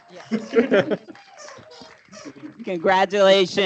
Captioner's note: applause